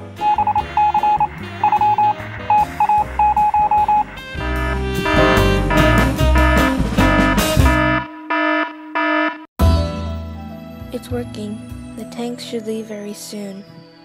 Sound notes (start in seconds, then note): 0.2 morse Code to activate alarm; 4.2 alarm